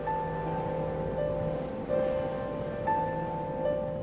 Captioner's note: outboard droning